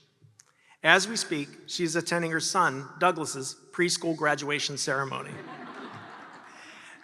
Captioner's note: laughter